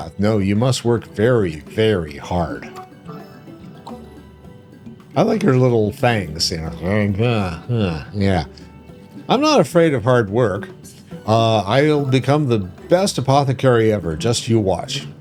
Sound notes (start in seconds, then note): 6.7 groaning